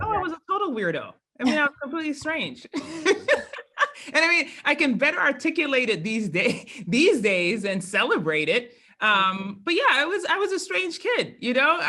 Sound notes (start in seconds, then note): 2.7 laugh